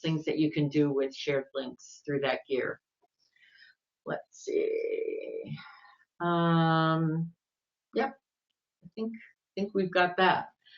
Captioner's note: talking to self